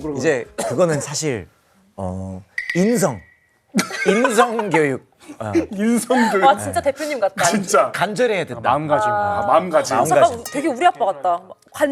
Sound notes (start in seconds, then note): 3.8 pfft, haha